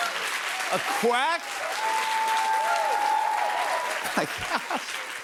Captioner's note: cheers and applause